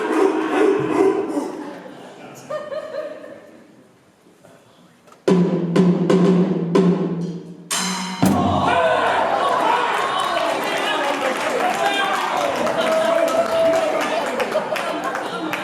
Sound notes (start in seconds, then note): 8.2 punch; 9.0 applause, laughter